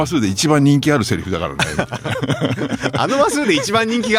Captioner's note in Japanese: 笑い